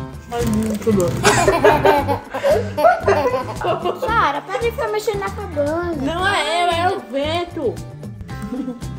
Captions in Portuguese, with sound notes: É muito bom. [tosse] [risadas] [risada de bebê] Sarah, para de ficar mexendo na cabana. -Não... -Não sou eu, é o vento.